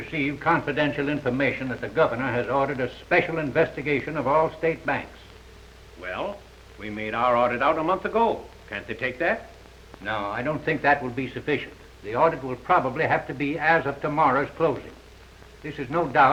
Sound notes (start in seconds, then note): none